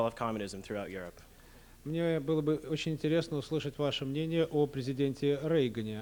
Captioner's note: non-english speech